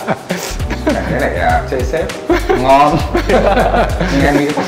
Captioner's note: laugh